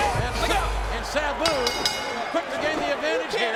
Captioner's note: bell ringing